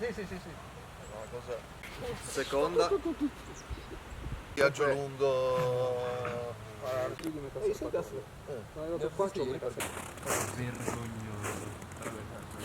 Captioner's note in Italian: risate